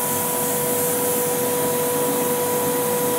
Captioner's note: hissing, machine noise